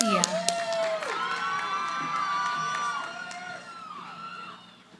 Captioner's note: cheering